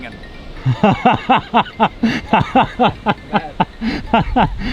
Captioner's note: laughing